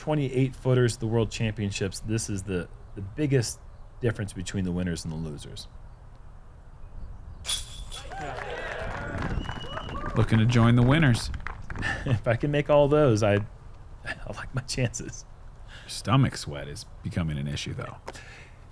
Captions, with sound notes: 28 footer's the World Championships. This is the biggest difference between the winners and the losers. [applause] -Looking to join the winners. -If I can make all those, I'd like my chances. -Your stomach sweat is becoming an issue though.